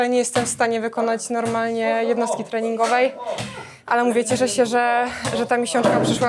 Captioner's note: snorts